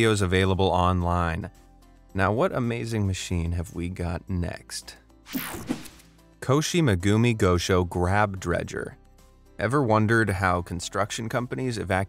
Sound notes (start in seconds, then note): 5.4 air whooshes